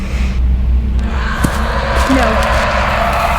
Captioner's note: loud inhuman roar